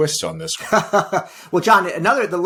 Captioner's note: laughs